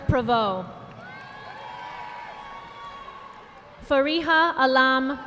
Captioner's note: audience applauding